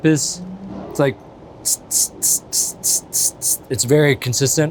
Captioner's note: hissing